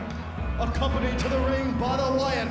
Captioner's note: crowd chatter